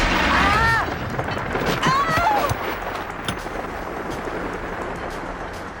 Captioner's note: rocket whooshing; explosion booming; girls yelping